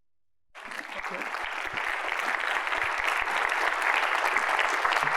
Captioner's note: audience applauding